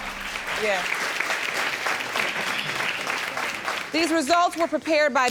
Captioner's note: applauding